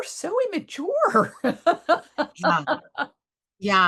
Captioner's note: laughs